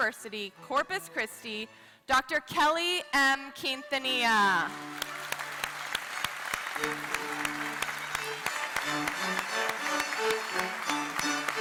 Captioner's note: applause